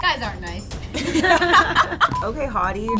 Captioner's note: laughing; all laughing